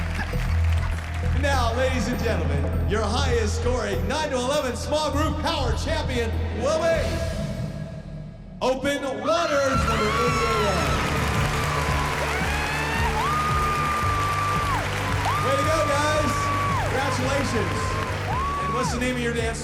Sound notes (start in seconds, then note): 8.5 cheering; 10.5 applause